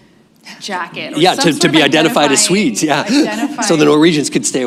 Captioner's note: laughs